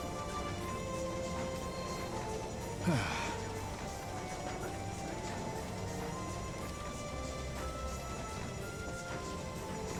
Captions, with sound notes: (sighs) Damn it.